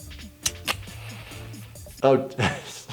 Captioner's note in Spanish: encendedor parpadeando